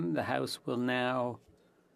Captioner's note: speaking French